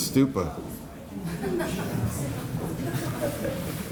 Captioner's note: laughter